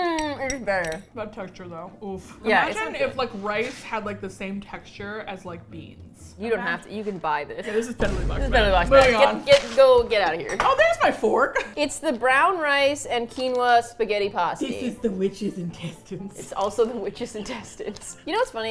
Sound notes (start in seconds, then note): 16.2 laughs